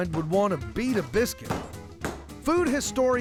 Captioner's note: pounding sound